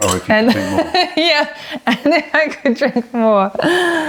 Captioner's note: laughter